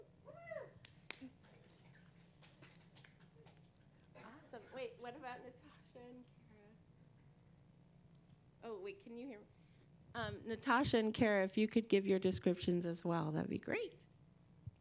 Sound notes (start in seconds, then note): 1.2 applause